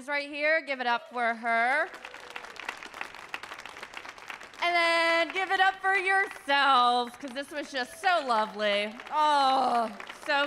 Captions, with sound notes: Give it up for her. (audience claps) And then give it up for yourselves 'cause this was just so lovely.